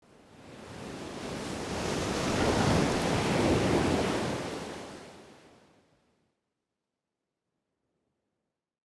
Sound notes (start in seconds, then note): 1.2 waves crashing